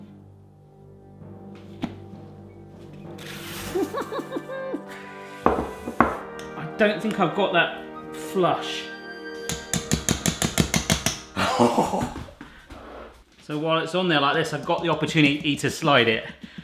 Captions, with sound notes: (chuckles) I don't think I've got that flush. (taps bowl) So while it's on there like this, I've got the opportunity to slide it.